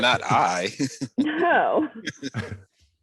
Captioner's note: laughs